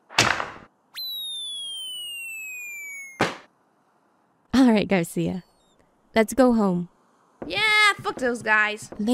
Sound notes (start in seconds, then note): 3.0 splat